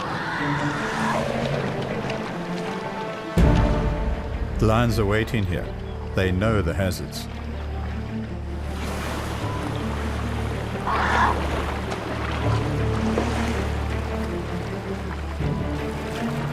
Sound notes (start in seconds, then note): 0.0 trumpeting; 0.0 animals calling; 6.1 animals calling; 10.6 animals calling; 10.8 trumpeting